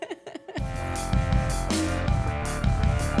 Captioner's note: laughing; techno music